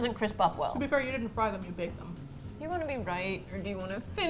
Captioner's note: pleading